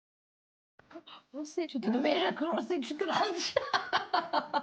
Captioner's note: in foreign language